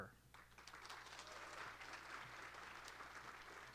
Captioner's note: applause